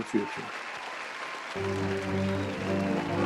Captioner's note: applause